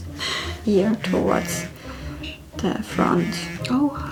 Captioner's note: phone buzzes